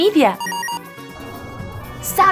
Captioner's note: beeping